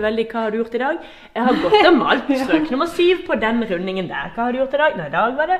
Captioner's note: haha